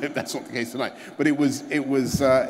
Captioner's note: laughter